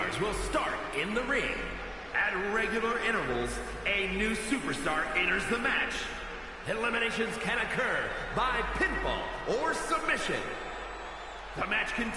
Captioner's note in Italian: Applauso